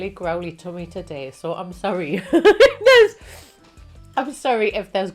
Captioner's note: laughs